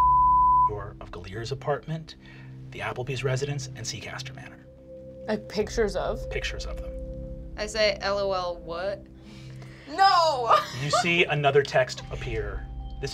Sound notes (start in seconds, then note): 0.0 beep; 10.2 laughs